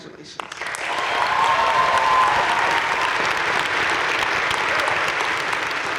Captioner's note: audience cheering and applauding